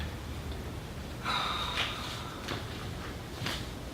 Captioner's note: sighs